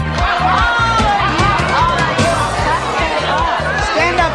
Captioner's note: audience hollering